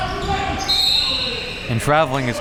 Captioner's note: whistle blowing